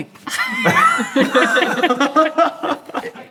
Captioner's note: everyone laughs